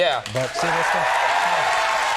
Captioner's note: audience cheering